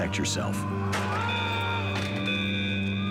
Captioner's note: alarm